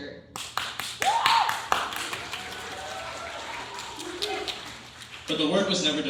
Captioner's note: cheering